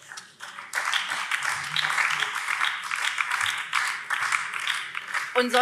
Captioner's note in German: Beifall BÜNDNIS 90/DIE GRÜNEN